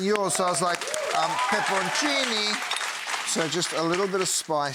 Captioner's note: audience applauding